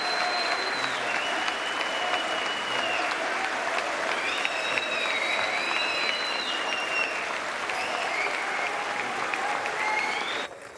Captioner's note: applause